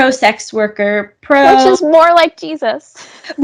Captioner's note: laughs